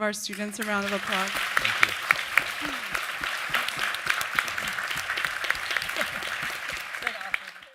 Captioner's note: audience Applause